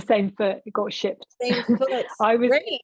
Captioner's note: chuckling